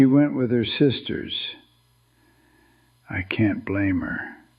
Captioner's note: whispers